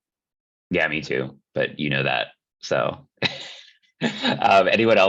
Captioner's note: laughs